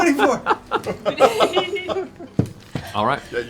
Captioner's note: laughter